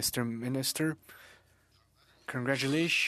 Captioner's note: speaking French